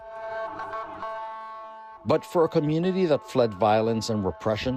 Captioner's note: vehicle horn honking